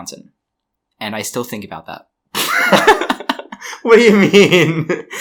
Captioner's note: laughs